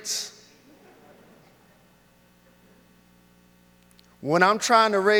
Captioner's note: audience laughs